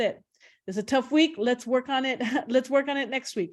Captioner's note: chuckles